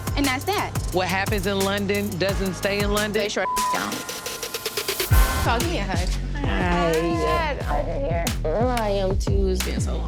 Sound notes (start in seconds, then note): 3.4 beep; 5.0 dramatic music